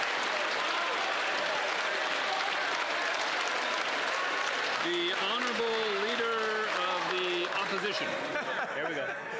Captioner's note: cheers & Applause